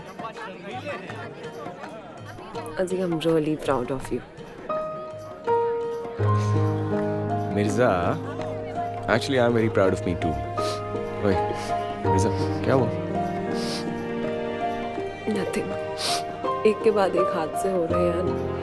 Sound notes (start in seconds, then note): 6.2 Azi sighs; 10.5 Jannat crying